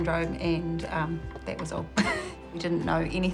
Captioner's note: chuckles